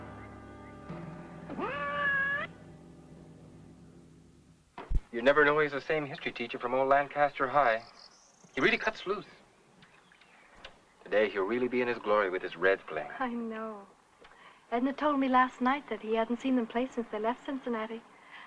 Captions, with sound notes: [ MEOW ] You never know he's the same history teacher from all Lancaster High. He really cuts loose. Today he'll really be in his glory with his red planner. I know. Edna told me last night that he hadn't seen them play since they left Cincinnati.